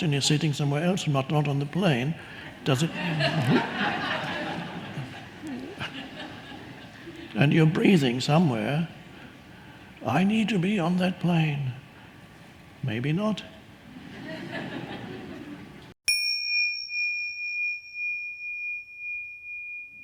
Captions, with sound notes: and you're sitting somewhere else, not on the plane, does it- (audience laughing) And you're breathing somewhere. I need to be on that plane. Maybe not. (audience laughing) (bell ringing)